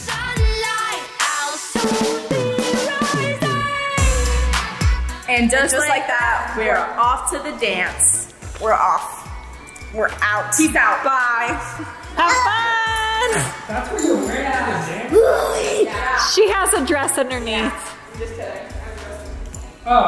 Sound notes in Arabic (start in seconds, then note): 15.9 الفتيات بصوت واحد